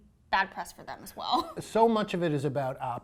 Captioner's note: laughs loudly